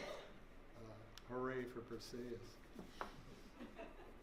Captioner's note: laughter